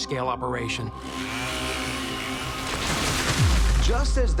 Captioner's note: saw whirring; tree cracking